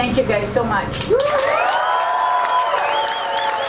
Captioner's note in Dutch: gejuich en groot applaus